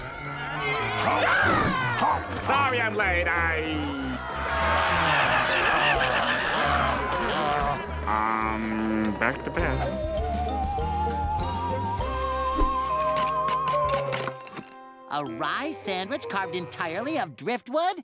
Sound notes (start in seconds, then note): 0.1 screaming; 3.8 screaming, groaning